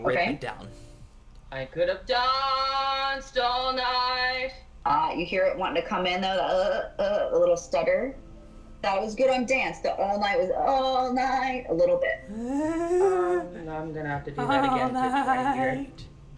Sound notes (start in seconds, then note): 7.1 stutters; 10.8 stutters all night; 14.4 laughs with stutter, stutters all night in humor